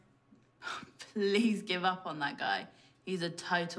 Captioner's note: sighs